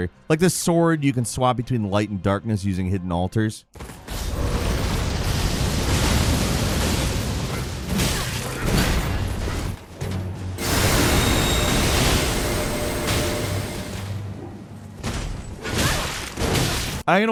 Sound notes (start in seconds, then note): 4.1 intense ambient music; 8.3 loud thumping; 10.6 loud swoosh; 15.6 loud thumping